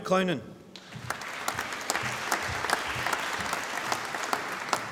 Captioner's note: applause